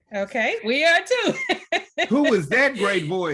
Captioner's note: chuckles